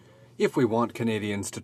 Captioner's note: speaking french